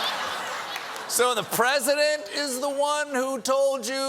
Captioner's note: laughter